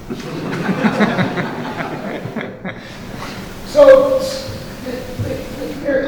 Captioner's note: laughing drowns out speaker